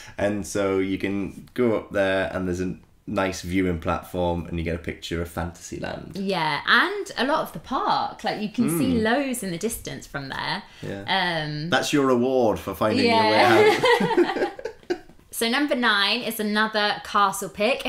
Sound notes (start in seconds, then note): 13.1 giggles